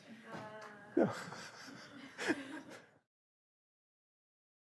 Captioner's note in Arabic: ضحكة مكتومة